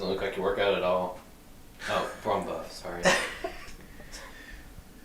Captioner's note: laughs